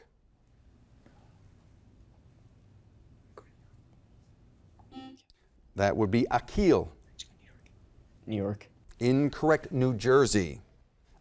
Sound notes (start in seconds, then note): 3.3 faintly speaking; 4.6 buzzer blaring